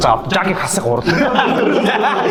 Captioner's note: everyone laughs